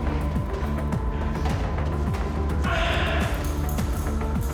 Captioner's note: Jan moaning